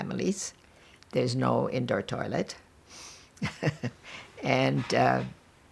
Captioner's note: laughing